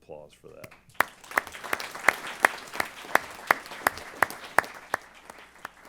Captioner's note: applause